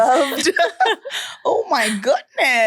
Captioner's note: everyone laughs